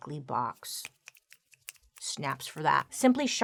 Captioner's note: snapping fingers